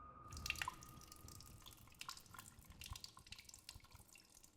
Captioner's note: urine pattering